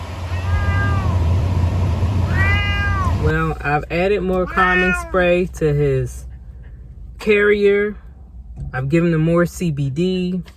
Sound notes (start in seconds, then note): 0.3 meow; 5.2 meow